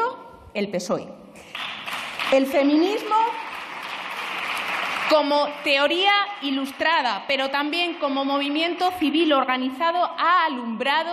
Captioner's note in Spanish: Aplausos